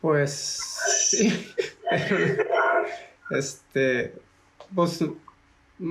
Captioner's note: laugh